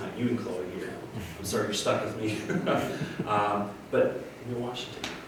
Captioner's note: laughs